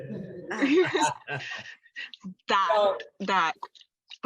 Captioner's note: all laughing